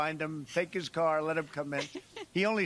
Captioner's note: laughs